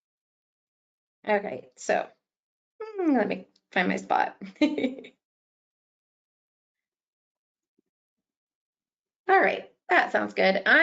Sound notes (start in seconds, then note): 4.5 chuckles